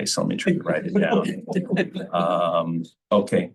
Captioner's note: laughter